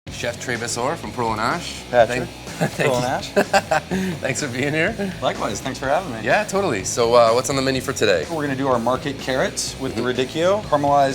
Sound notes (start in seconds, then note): 2.4 laughs